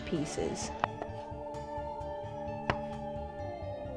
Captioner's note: knife cuts